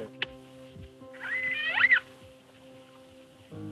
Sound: orca sounds

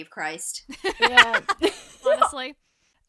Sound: laughter

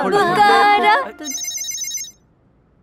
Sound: typing sound

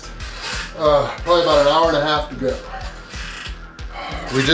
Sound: groans

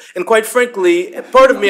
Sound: laughter

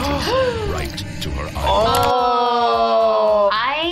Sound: gasp

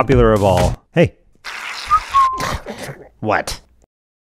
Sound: Keevil snorts; Skenk Whistles

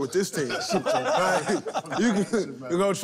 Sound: laughter

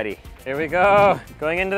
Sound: chuckles

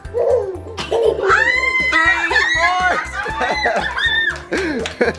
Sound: excited squealing

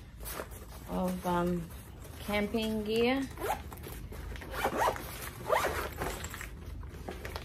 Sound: zipper makes zipping noises

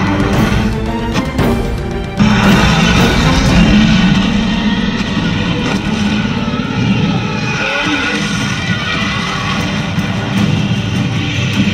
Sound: loud growling/fighting

